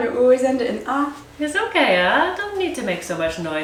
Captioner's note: Malaysian accent